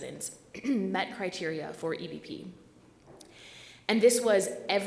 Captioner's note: clears throat